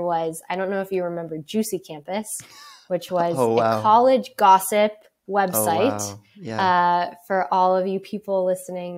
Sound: laughs

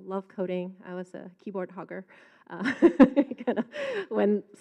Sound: laughs

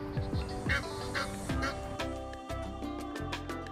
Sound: quacking

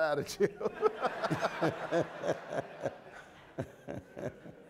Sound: audience laughing

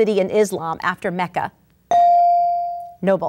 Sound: ding

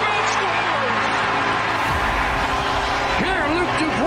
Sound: crowd cheering

